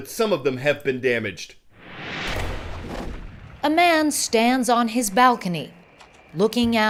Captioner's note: voice-over